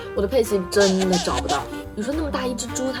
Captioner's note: sobbing